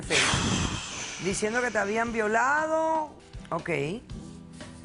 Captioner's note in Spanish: Exhala con fuerza